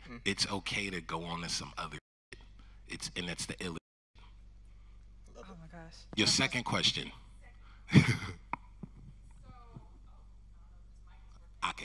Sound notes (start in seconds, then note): 7.9 chuckles